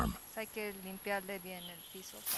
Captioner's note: speaking local language